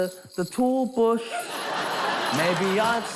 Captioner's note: laughter